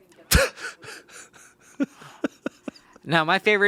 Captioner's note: laughs